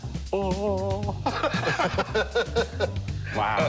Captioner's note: laughter